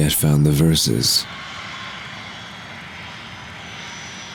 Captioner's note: airplane passes